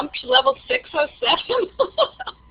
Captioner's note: laughing